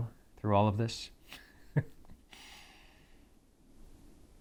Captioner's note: chuckles